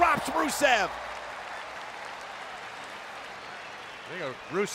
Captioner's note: crowd clapping